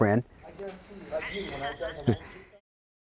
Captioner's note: laughs